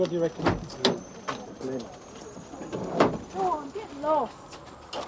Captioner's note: car door slams